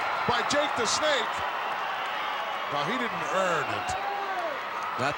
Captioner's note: applause